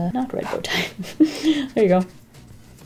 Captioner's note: laughs